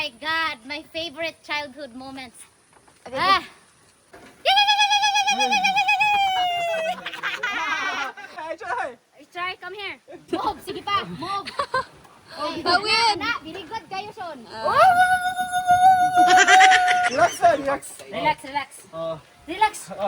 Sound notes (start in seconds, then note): 4.6 imitating the sound in Avatar HAHA